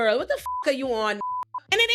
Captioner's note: beep